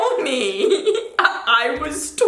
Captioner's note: giggles